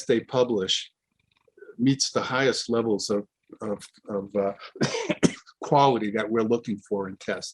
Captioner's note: coughs